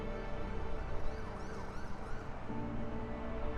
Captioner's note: sirens in the distance